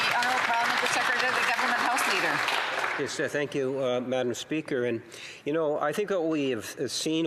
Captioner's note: applause